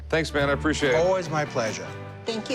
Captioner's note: none